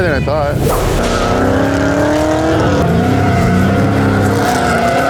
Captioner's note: car engine revving